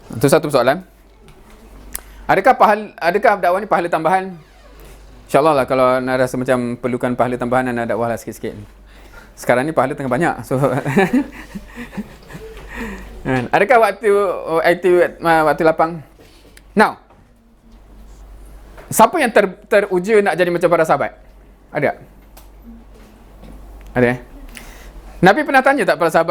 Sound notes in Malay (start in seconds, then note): 10.7 ketawa